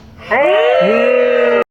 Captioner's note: cheeeeeeeeeeers